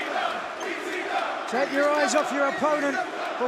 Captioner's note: crowd cheering